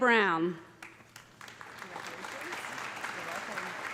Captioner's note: applause